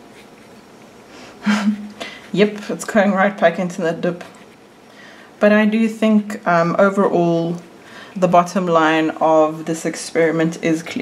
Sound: laughs

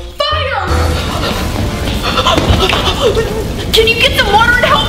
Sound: fire burns

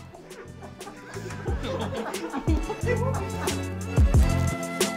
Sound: laughing

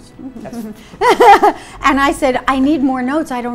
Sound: laughs

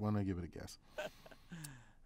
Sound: laugh

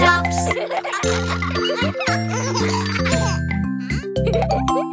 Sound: kids chuckling

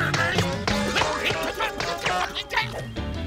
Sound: grunting

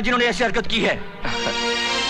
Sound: chuckles

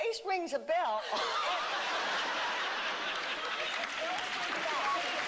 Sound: laughter

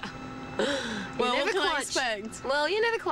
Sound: laughs

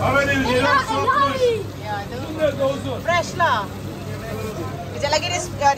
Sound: speaking German

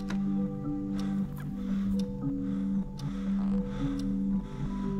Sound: michael breath es heavily

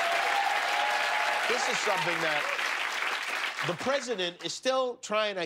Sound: cheers and applause

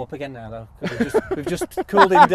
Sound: all laugh

